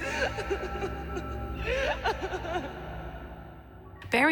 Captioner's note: crying noises